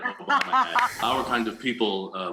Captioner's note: laughing